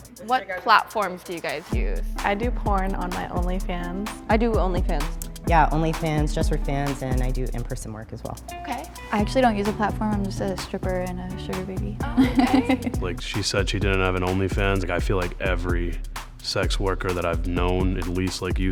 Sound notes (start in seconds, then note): 12.0 laughs